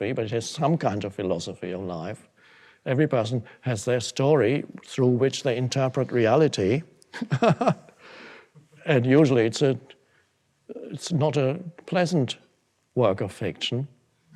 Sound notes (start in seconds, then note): 7.1 laughs